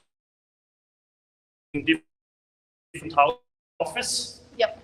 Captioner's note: audio cuts out